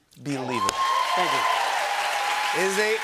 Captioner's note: applause